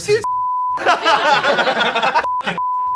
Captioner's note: beep; beep